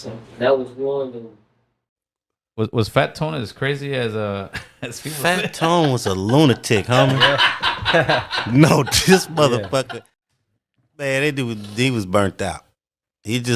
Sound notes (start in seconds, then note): 7.2 speaker laughing